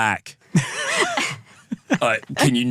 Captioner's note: laughing